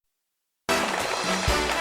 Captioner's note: audience clapping; upbeat music